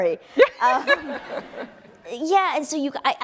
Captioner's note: laughing